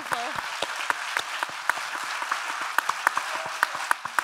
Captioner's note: audience applauding